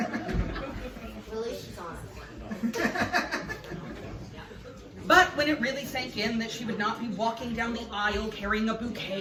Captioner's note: laughs; laughs